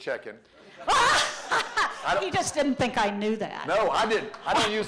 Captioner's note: laughter